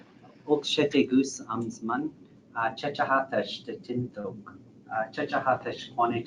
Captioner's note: praying in foreign language